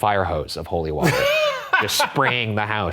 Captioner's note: laughing